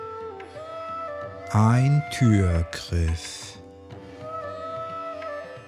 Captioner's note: german